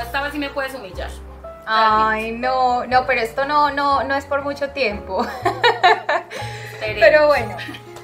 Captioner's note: laughs